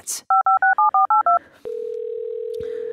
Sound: dialling phone

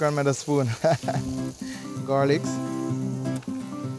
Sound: laughs

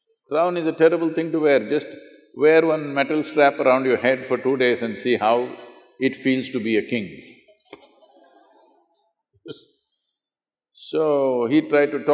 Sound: laughter

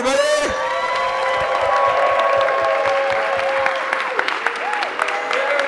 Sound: crowd cheering and clapping

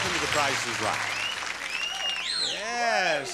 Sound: audience whistling

